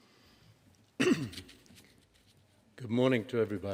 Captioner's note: clears throat